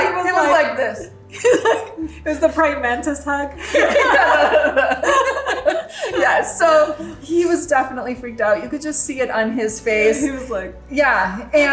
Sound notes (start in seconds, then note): 1.3 laughs; 3.6 both laughing